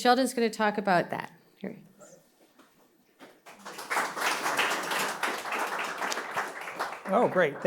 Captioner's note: applause